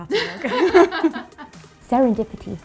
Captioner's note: laughs